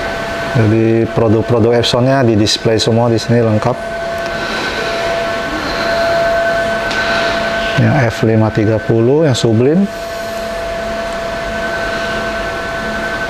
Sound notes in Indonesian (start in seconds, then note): 0.0 suara mesin; 4.2 suara mesin; 4.2 menghela nafas; 10.5 suara mesin; 11.1 menghela nafas; 11.1 suara mesin